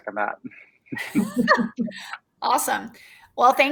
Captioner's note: all laughing